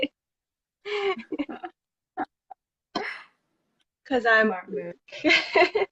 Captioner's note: laugh